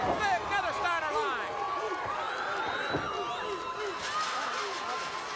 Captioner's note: audience barks